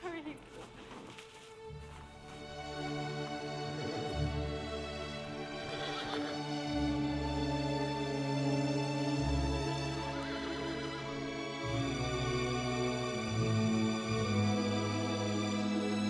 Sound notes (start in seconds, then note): 1.0 soft music; 5.4 horse whinnying; 7.0 soft music; 10.0 horse whinnying; 12.8 soft music